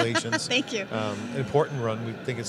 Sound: laughing

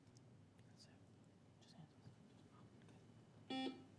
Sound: teammates whisper; buzzer beeps

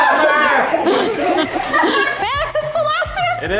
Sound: laughing

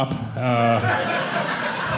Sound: audience laughing

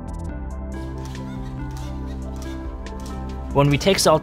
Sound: rhythmic tapping

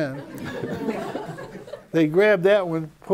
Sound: laughter

